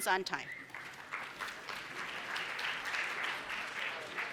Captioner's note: applause